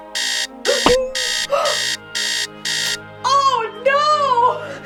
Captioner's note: gasps